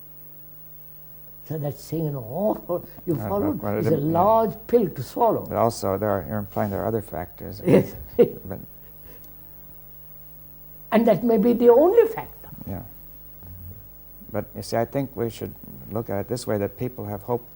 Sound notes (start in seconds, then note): 7.6 laughs